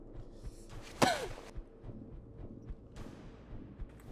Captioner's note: Ping gasps